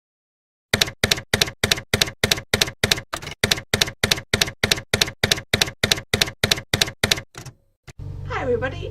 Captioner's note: typewriter keys clacking